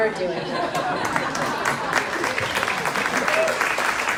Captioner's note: crowd claps